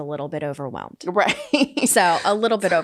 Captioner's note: laughs